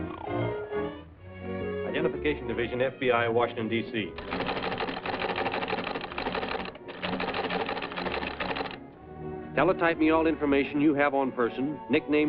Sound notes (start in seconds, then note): 4.1 teletype clacking